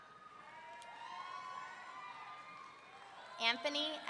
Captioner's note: audience cheering